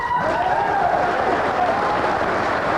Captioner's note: cheering and Applause